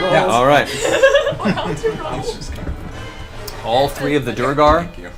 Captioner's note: all laugh